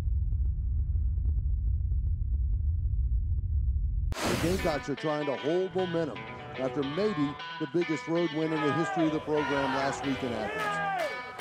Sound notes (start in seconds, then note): 4.6 voiceover; 11.2 upbeat music